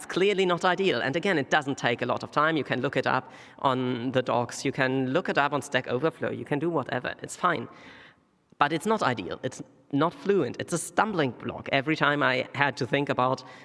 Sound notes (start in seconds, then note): none